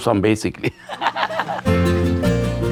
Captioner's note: laughs